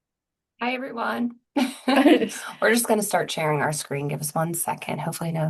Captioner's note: laughs